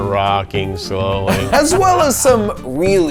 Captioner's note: both laugh